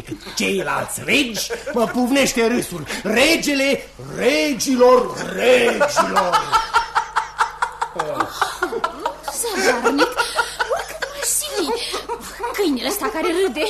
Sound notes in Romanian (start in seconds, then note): 5.4 Râsete